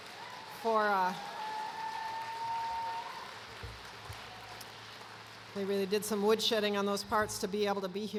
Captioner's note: cheers and applause